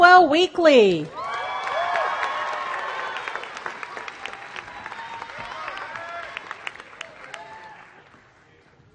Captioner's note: applause